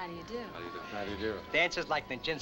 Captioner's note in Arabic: يتمتم